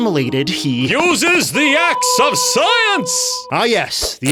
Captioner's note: booming voice